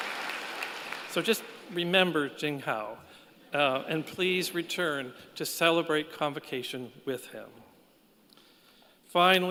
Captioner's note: applause